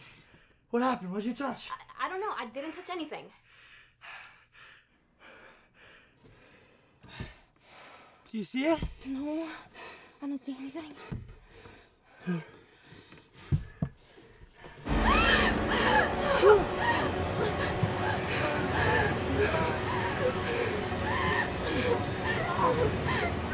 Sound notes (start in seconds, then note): 3.3 heavy breathing; 11.2 heavy breathing; 16.4 panicking